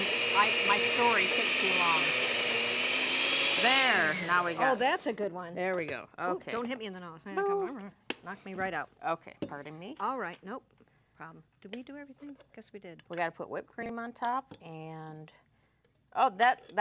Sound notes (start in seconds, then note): 5.7 blender grinding high speed